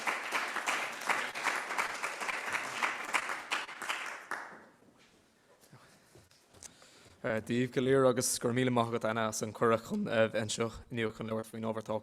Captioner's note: applause